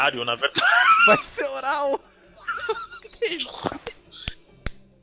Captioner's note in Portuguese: Risos